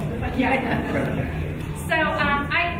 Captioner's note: laughing